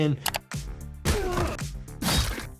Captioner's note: weapon thudding; upbeat music